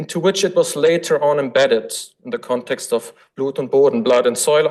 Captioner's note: foreign language